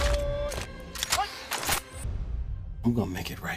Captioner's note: suspenseful music; gun clacking